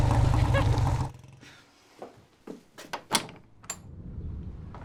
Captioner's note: giggling